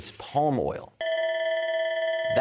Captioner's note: bell ringing